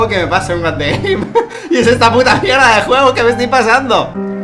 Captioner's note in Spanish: risas